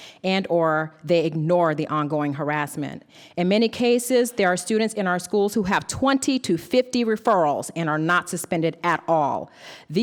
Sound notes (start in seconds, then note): none